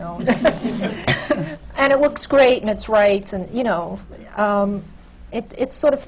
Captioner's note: laughter